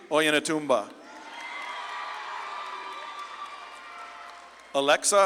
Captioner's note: audience claps and cheers